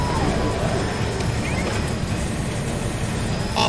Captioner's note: noise of lighting element added